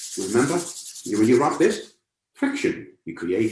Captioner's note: rubbing hands together